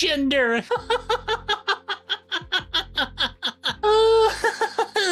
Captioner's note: laughs